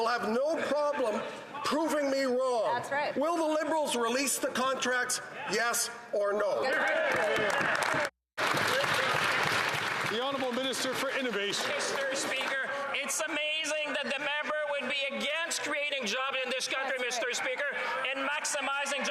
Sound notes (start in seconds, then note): 11.1 some Applause